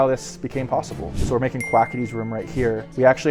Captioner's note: bell dings